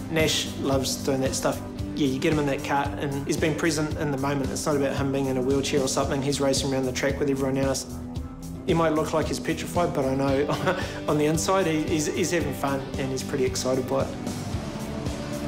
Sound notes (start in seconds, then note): 10.4 chuckles; 15.2 uplifting music